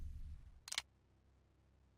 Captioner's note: gun clicks